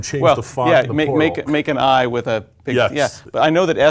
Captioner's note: laugh